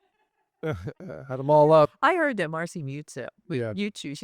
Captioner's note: laughing